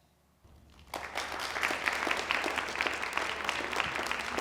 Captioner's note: applause